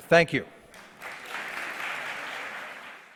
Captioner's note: audience applause